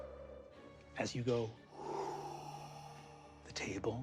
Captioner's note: exhales deeply